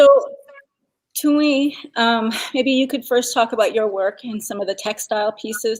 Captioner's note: speaking Dakota